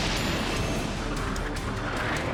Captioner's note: lightning crashes